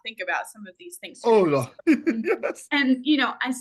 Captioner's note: laughs